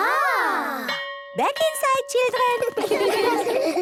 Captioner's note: school bell